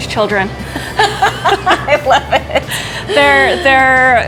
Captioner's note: laughing